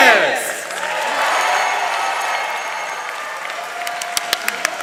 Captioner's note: audience cheering